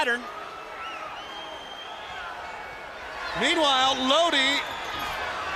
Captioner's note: crowd chatter